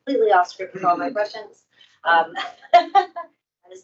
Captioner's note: laughs